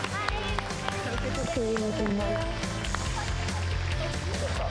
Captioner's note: audience claps